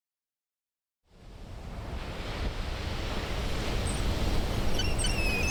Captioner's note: waves crashing; seagulls squaking